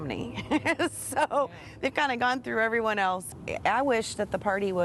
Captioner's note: laughter